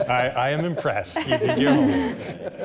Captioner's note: laughter